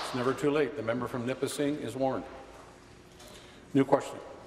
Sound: applause

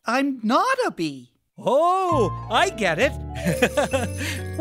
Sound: chuckle

